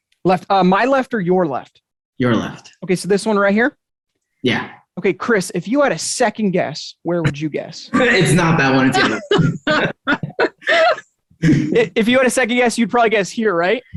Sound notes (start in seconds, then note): 7.8 all laughing